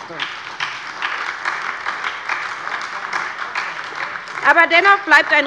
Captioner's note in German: Beifall bei der SPD